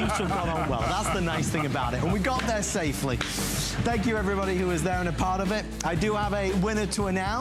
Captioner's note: laughter